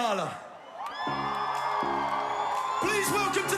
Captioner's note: crowd cheering